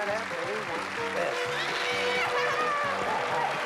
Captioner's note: laughs